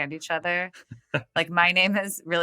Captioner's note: <Laugh>